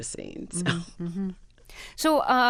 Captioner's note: laughter